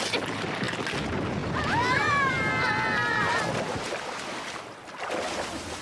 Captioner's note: screams